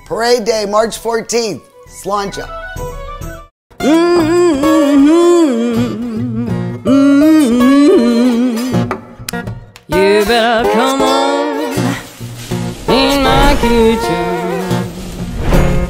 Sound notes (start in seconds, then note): 3.8 soft country music; 11.6 meat sizzling